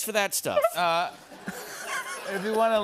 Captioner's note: laughter